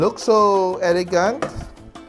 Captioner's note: knock